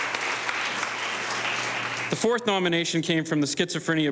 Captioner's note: audience applauding